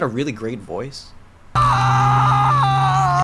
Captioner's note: wailing